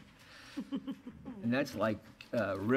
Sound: laughter

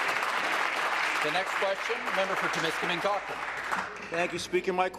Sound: voice trailing; applause

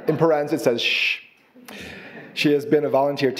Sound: audience laughing

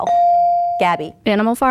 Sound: bell dinging

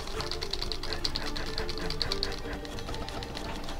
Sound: further frantic button-mashing

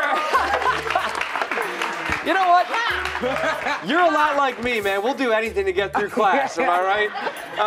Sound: applause

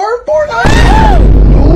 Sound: boom

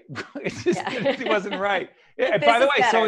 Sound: laughing

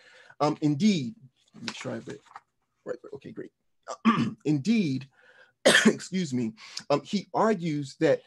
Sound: coughs

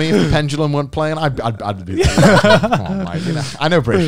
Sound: all laughing

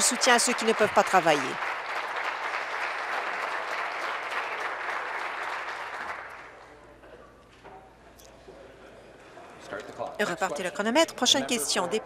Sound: applause

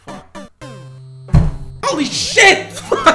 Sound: audible thump

